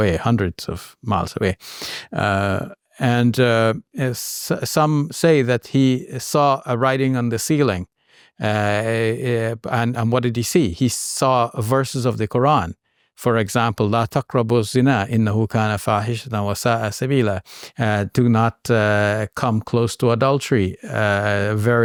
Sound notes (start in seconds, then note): 13.8 speaks Arabic